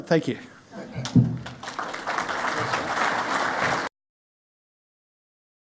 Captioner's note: audience chuckles and claps